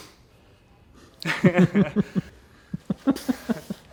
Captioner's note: laughing